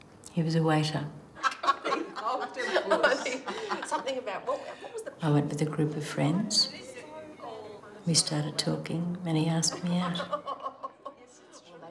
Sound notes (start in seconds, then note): 1.4 laughing